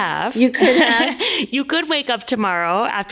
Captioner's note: laughs